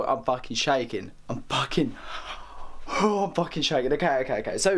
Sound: gasp

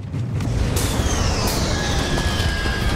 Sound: engine roaring; passengers screaming

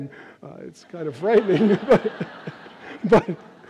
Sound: audience laughs

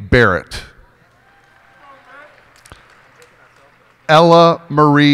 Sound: cheers and applause

